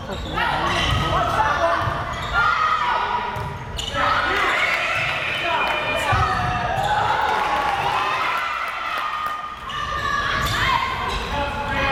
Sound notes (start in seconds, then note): 5.5 crowd cheering